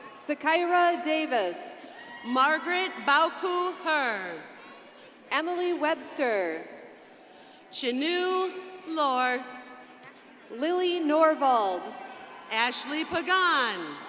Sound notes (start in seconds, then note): none